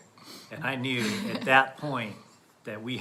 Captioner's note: laughs